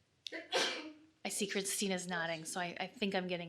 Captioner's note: woman sneezes